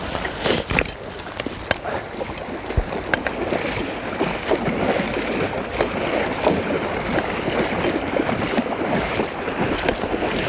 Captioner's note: splash from wading